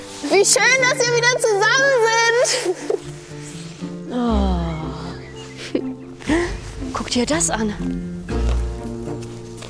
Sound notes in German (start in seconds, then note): 4.0 Sie seufzt; 8.0 Aufgeweckte Musik